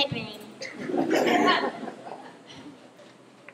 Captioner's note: laughter